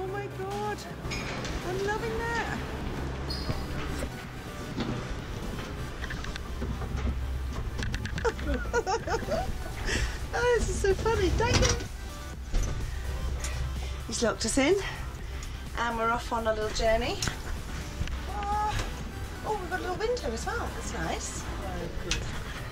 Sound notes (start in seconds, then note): 7.9 laughing